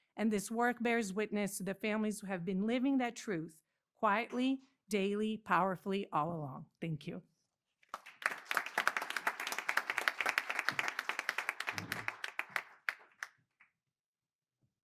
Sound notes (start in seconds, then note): 7.8 applause